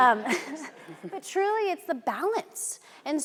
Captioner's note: audience laughing